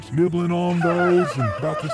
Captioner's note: giggling